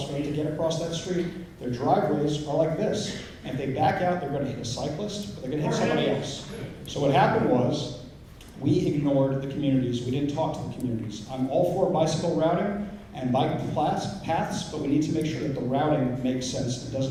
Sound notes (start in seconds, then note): 6.3 yelling from crowd